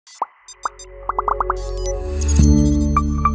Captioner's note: graphics beeping; graphics popping; bright music; graphics chiming